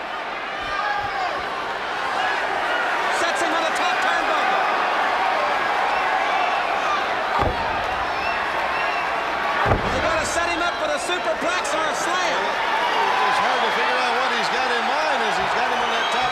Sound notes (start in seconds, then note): 0.0 crowd chatter; 6.4 crowd chatter